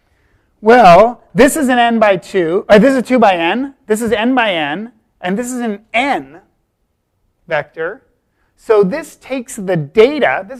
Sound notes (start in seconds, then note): none